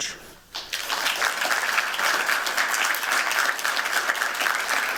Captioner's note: applause